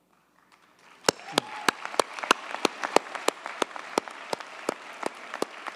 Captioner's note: audience cheers and applauds